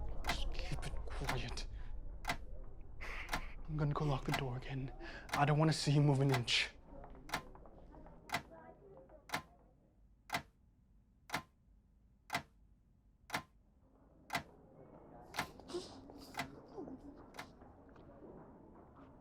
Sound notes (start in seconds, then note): 0.0 Mrs. Hill whimpers softly; 0.0 clock ticking; 0.3 Jeremy whispers; 7.0 students chattering in the distance; 10.3 clock continues ticking; 15.4 ticking recedes; 15.5 muffled whimper